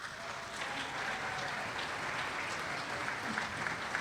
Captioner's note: applause